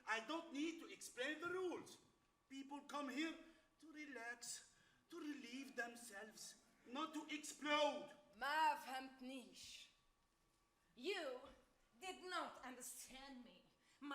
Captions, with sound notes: I don't need to explain the rules. People come here to relax, to relieve themselves, not to explode. [woman speaks Arabic] - You did not understand me.